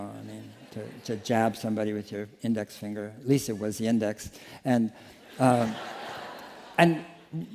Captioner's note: laughter